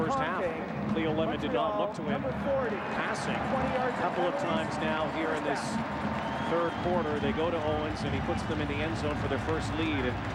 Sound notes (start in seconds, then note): 0.6 cheering and applause